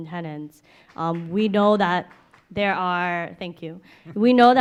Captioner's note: applauding